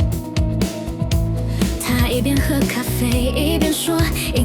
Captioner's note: humming meaninglessly